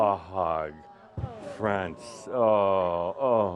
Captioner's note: audience says “Awww”